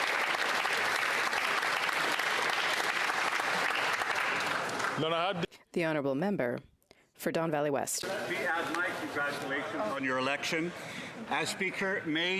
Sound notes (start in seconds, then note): 0.0 applause